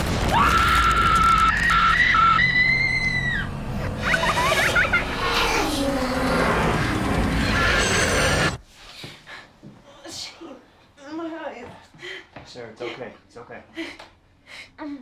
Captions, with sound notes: [sound of pelvic bone shattering] [Sarah screams in agony] [Nightmare child laughs] [Creature shrieks] Shane... My eyes... Sarah, it's OK. It's OK.